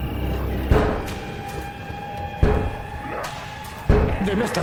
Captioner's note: zombies banging